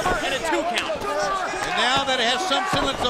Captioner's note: crowd chatter